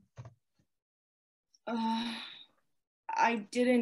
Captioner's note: AMON Sighs